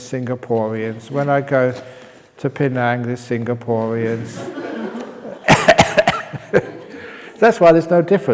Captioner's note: laughs